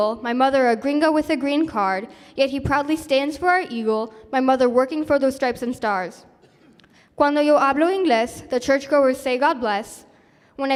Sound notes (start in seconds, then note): 7.2 speaking spanish